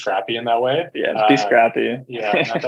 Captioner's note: chuckles